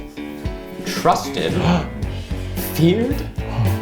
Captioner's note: gasp